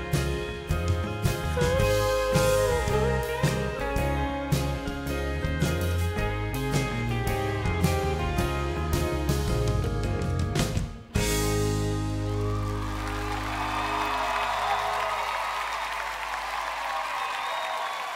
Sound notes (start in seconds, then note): 12.0 audience applauds